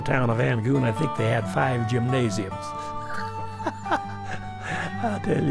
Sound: laughs

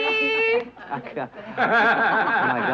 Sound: group laughing

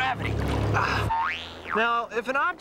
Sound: groans

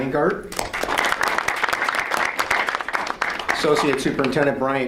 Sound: audience applauds

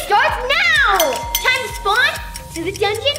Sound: timer beeping

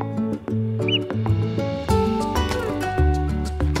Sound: upbeat music continues; gopher chirps; upbeat music continues

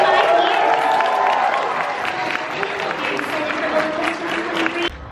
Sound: audience applause

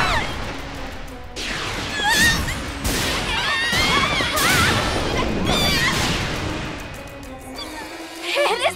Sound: screaming

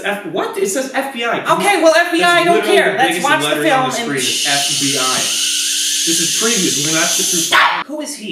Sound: continued shhing

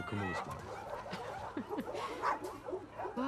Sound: laughs

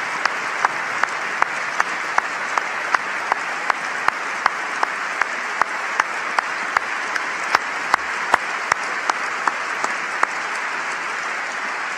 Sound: applause

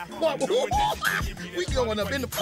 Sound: chuckling lightly

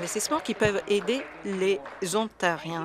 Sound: some Applause

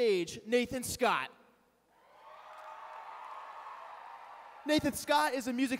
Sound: cheering

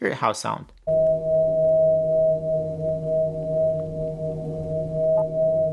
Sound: high-pitched humming

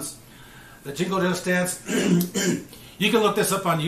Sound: clears throat

